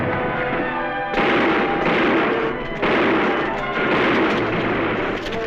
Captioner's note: gunfire